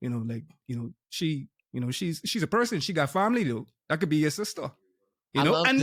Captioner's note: none